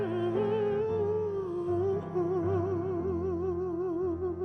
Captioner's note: vocalist humming